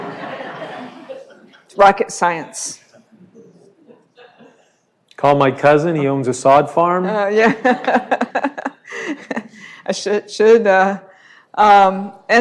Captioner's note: laughter